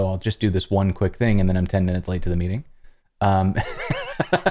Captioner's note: laughter